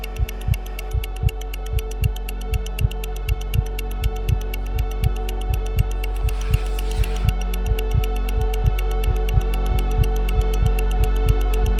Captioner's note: watch ticking begins; heartbeat intensifies